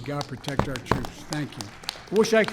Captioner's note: applause